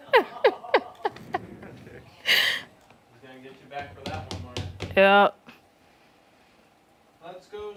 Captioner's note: laughter